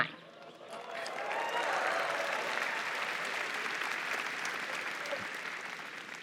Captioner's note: applause